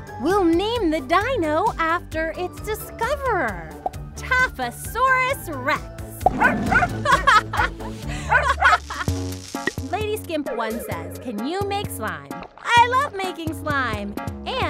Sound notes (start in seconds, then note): 6.3 Taffy barks